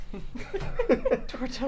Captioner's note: both laughing